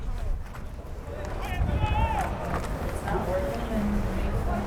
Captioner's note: players yelling